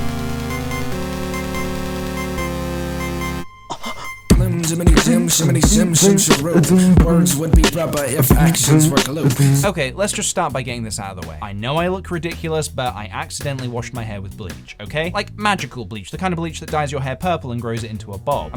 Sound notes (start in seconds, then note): 3.7 anime gasp